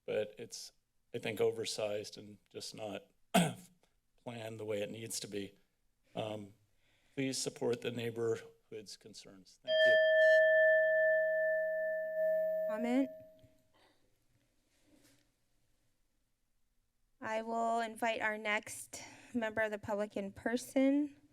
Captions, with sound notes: but it's I think, oversized and just not [clear throat] planned the way it needs to be. Um, please support the neighborhood's concerns. Thank you. [bell sound] -Comment? I will invite our next member of the public in person.